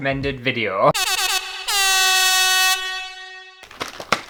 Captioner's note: air Horn!!; box Slapping Face Sound